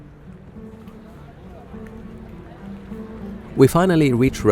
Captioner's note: distant chatter